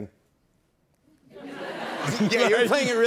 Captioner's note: laughter